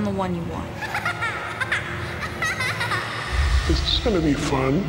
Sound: laughing

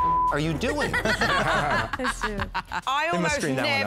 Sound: laughter

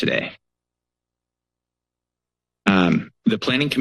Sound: pause

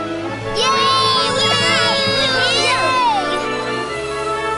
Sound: Linny and Tuck cheering

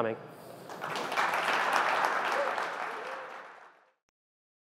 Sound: applause

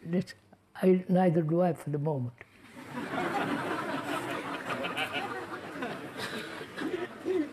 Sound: laughter

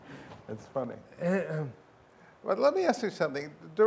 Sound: laughs

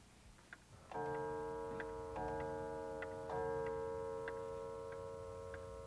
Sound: clock chimes ringing

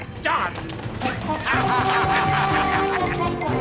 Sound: both laugh

